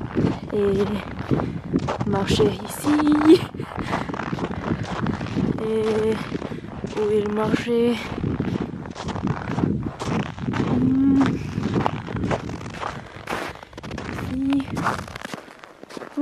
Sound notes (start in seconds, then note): 3.6 footsteps in the snow; 8.9 footsteps in the snow